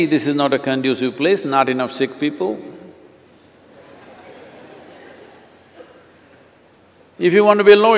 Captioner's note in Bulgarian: смях